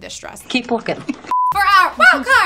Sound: laughing

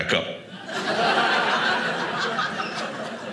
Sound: audience laughing

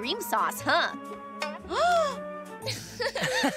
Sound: gasping; laughing

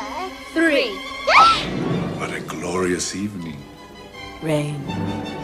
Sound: baby screaming; intense music

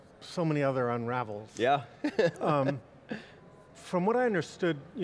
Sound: laughs

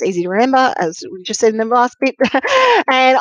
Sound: laughs

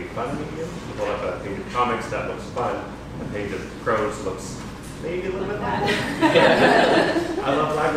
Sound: laughter

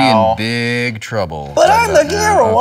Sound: imitating luke

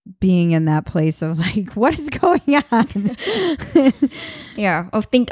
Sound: laughing

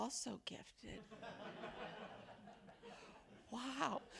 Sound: attendees laugh

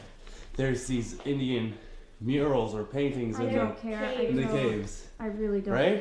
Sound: none

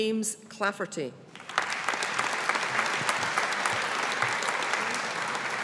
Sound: audience applauding

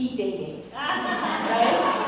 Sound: laugh

